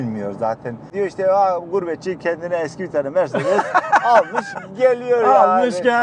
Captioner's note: laughings